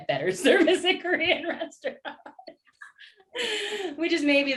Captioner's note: laughter